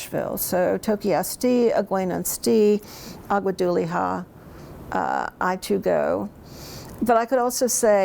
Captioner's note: speaks in Cherokee